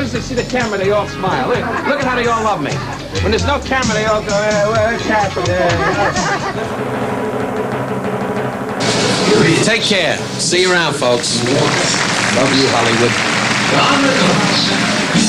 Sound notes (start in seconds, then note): 5.4 laughter; 6.5 drum roll; 14.8 applause